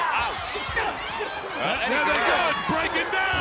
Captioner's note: applause